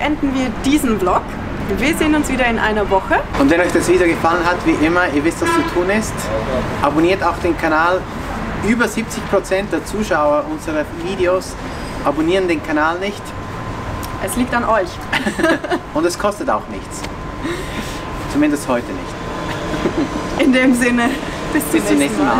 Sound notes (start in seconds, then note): 15.1 laughter